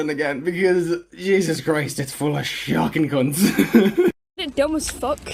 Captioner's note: laughs